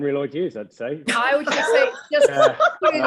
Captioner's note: all laughing